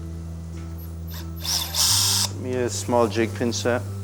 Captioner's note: machine buzzing